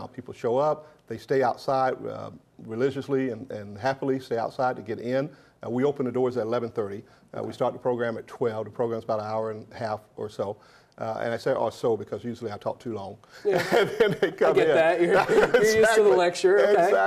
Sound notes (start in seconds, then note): 13.5 laughs